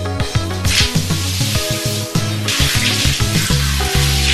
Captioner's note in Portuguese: água corrente